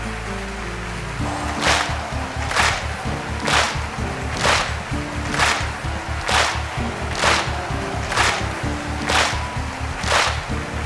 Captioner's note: rhythmic clapping